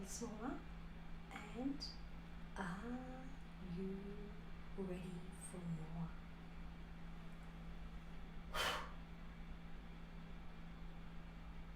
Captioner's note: gentle blowing sound